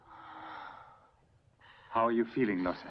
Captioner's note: Lottie gasping